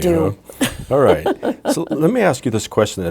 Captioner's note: laughing